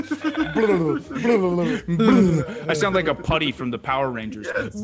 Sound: laugh

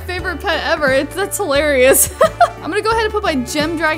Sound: laughs

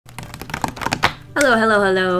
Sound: tapping fingers

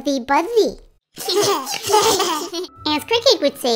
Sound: giggling

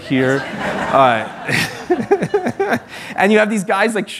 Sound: laughter

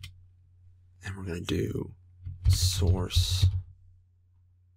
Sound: typing; typing

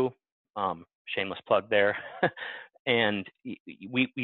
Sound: laughs

